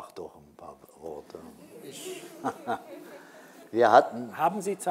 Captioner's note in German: und Publikum lachen